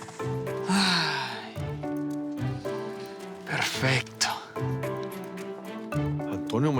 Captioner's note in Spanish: Suspirando